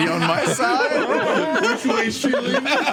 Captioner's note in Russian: смех